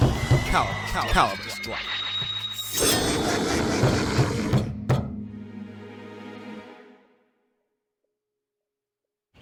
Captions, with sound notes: Calibur Strike! [Heavy knocking]